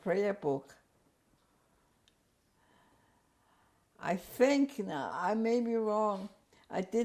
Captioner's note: pauses for 3 seconds